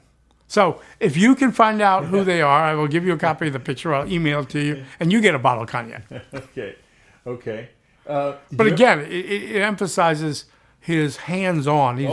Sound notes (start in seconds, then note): 5.7 laughs